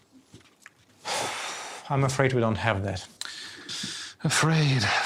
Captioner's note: sighs